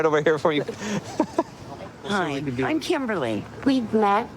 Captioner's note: laughing